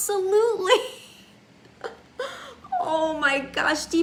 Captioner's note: laughs